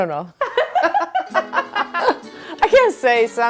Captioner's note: laughing